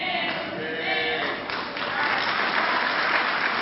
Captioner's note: clapping